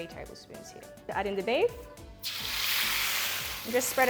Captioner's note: oil spattering